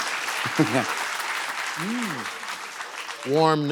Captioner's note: applause